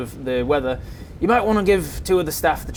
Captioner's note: thunders